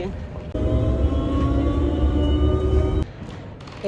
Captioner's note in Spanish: sonido de tren